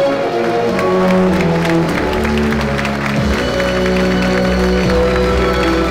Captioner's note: audience applauding